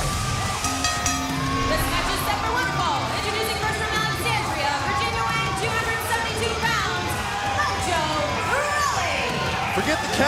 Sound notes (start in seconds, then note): 0.6 bell ringing